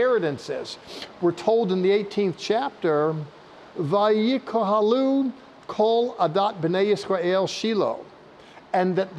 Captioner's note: speaking Hebrew